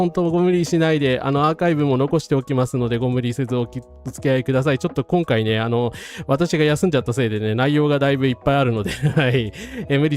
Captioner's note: laughs